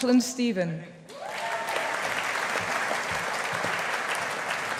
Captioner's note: audience applauding